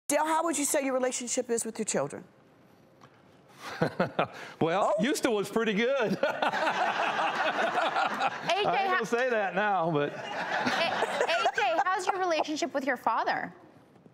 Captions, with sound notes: Dale, how would you say your relationship is with your children? (laughs) Well, used to was pretty good. (laughter) A. J., I ain't gonna say that now but (laughter) A.J. how's your relationship with your father?